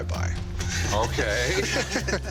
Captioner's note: all chuckle